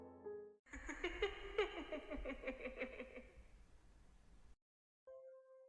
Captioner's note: laughs